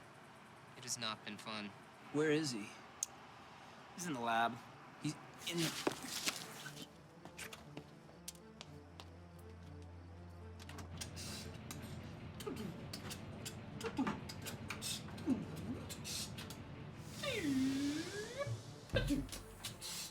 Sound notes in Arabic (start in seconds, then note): 6.1 موسيقى إيقاعية متوترة; 12.2 بيتبوكس